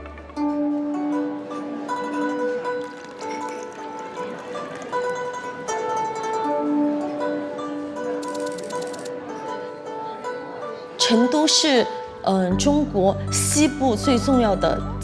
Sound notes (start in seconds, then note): 0.2 soft music playing; 8.0 indistinct chatter